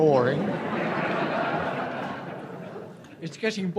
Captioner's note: audience laughs